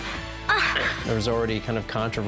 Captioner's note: woman moaning